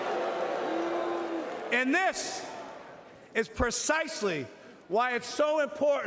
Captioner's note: booing